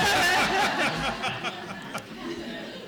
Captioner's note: laughter